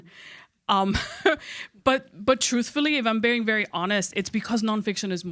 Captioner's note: chuckles